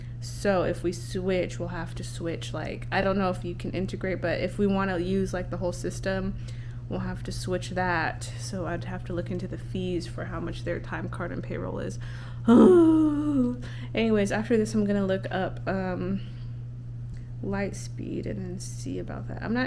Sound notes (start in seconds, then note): 12.4 groans